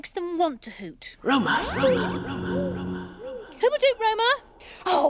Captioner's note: Roma echoing